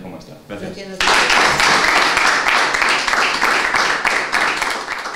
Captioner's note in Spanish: aplausos